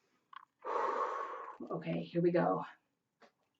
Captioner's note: exhales; inhales